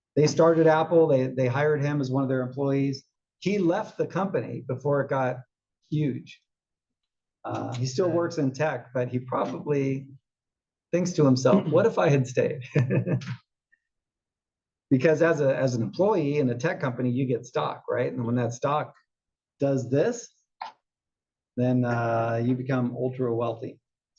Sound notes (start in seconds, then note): 11.4 laugh